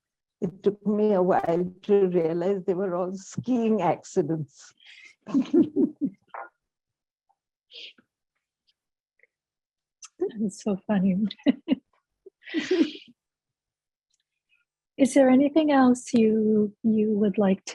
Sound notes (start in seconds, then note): 5.2 chuckling